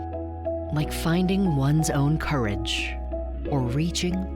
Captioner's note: none